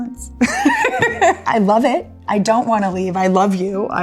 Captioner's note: laughs